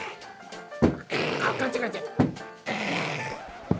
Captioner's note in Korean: 하악